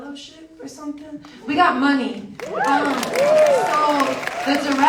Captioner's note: audience cheers and applauds